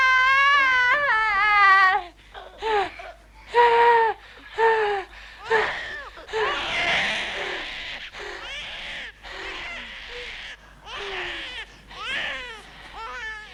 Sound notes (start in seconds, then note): 2.8 Hundra sighing; 5.4 baby crying